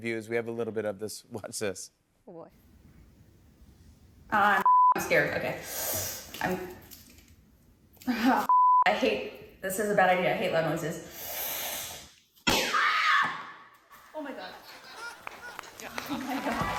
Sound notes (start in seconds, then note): 12.6 screams